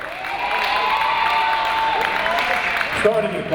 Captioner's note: audience applauding and cheering